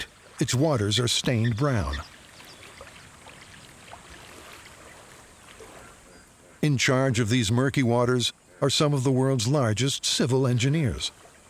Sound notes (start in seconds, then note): 3.0 water lapping